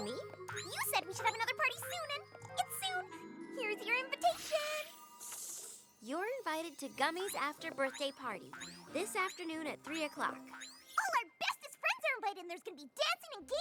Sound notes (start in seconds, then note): 5.5 tinkling